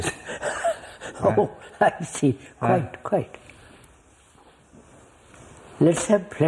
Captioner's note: laughs